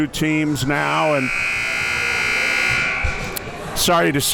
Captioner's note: buzzer sounding